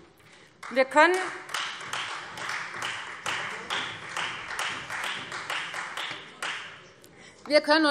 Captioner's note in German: Beifall Freie Demokraten und vereinzelt CDU